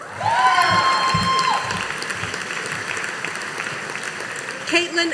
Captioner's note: audience applauding